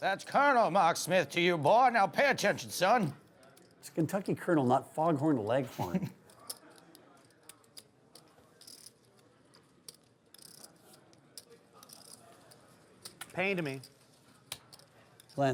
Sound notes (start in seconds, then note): 5.7 chuckles